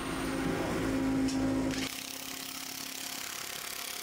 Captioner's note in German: construction noise